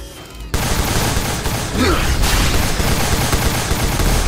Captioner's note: laser blasts